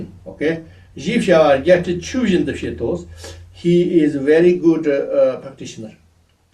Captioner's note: tibetan